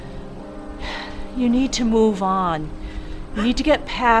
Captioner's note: sighs